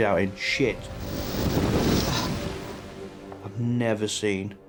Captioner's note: water whooshing; wind whooshing